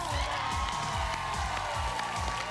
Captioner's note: applause; crowd cheering